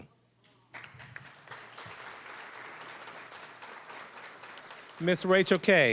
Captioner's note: applause